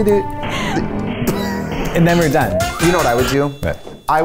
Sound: hums; laughs

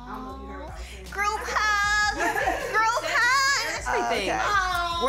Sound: all laugh

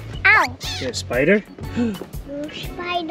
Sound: gasps

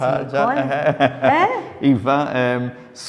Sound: chuckles

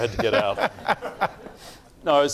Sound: laughing

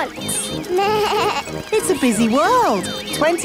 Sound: bleats

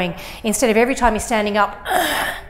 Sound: grunts

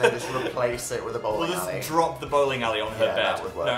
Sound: laughs

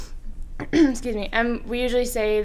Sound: clears throat

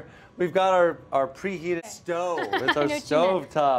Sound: laughs

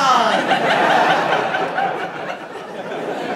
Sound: audience laughing

